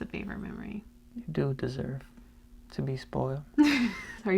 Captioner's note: whispers; laughs